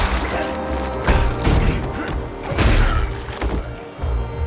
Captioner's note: grunting